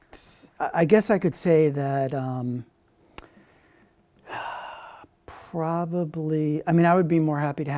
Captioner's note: sigh